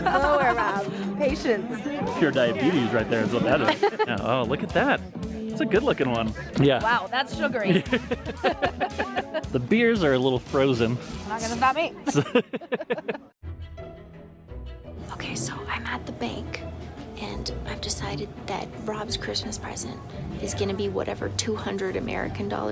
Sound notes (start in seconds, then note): 7.5 laughs; 12.4 laughs